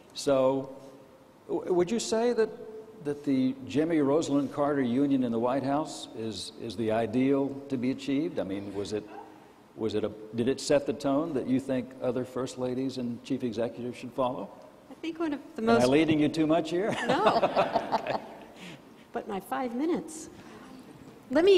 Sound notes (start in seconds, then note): 16.8 laughs